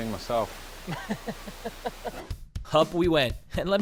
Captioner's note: laughing